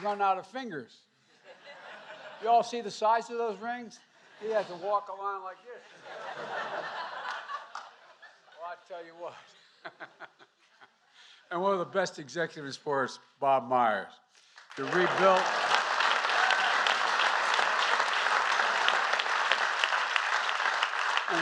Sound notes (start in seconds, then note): 1.3 laughter; 5.8 laughter; 9.5 laughs; 19.1 applause